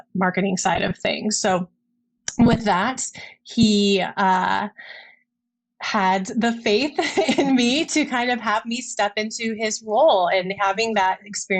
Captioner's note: laughs